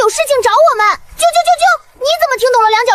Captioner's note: chirp chirp chirp